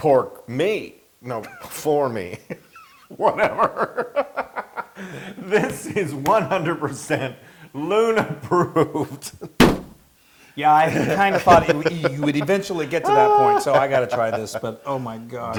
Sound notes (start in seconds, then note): 2.4 laugh